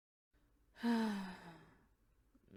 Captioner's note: sighs